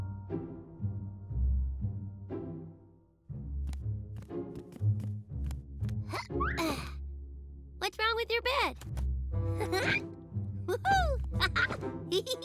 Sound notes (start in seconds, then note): 9.4 chuckles excitedly